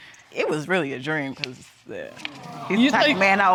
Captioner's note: all cooing